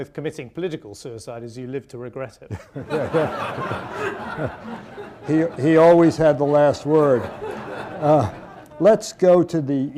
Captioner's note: laughter